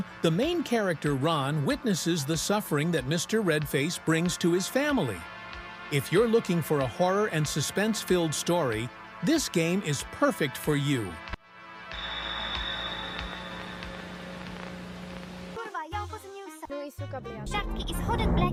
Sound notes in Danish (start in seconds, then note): 15.4 Bifald